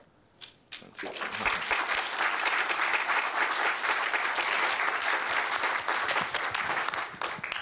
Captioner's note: applause